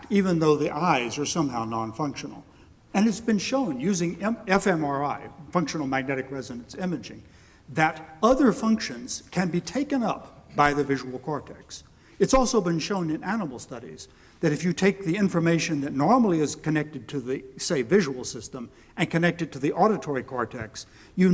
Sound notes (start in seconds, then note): none